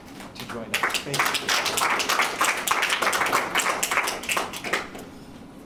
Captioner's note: audience applauds